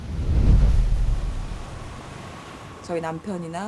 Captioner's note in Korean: 강한 파도 소리